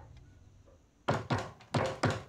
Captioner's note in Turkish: Kapı tıklaması sesi